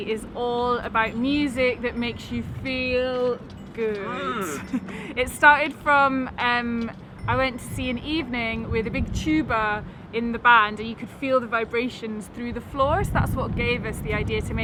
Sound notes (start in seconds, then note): 4.0 laughs